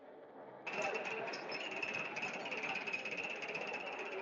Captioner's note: people chattering